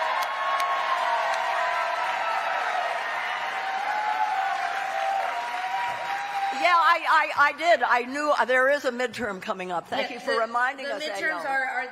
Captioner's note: cheering